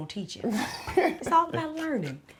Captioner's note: laughing